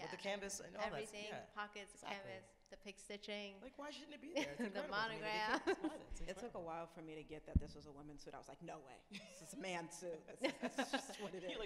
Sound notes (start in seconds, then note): 5.3 laughs